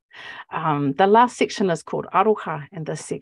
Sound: speaking Maori

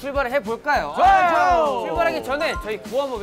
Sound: excited

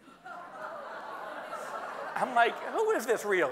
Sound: audience laughing

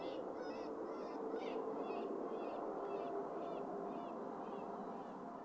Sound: birds continues chirping

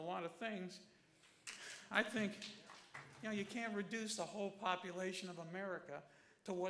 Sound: applause

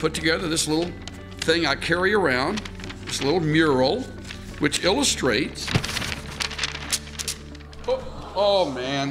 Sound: rustles paper

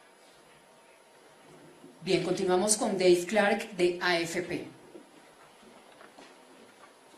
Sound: in Spanish, via interpretation

